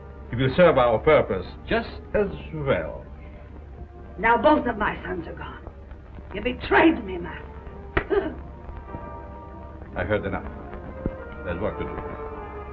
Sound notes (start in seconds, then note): 7.8 Fagah gasps